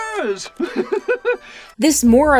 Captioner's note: giggles